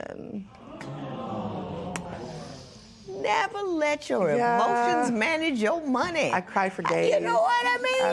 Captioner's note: spectators gasp, murmur